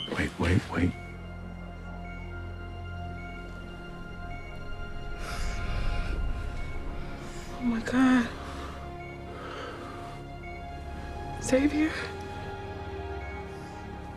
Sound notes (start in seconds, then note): 5.2 breathes